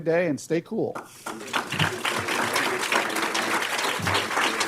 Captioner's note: applause